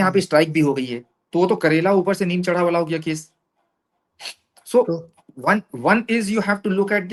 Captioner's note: nasal voice